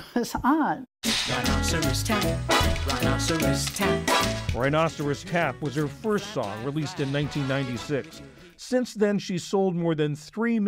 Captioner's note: voice-over